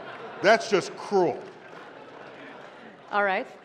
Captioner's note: laughter